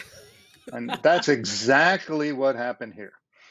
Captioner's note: laughs